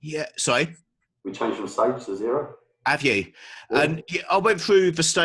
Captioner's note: murmuring